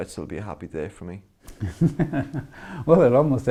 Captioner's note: laughter